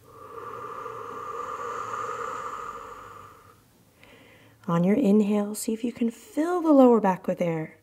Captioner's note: inhale; exhale